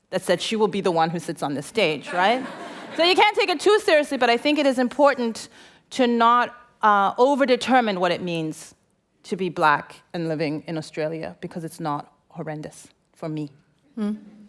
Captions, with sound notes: That said she will be the one who sits on this stage, right? [Laughter] So you can't take it too seriously. But I think it is important to not over-determine what it means to be black and living in Australia. Because it's not horrendous for me.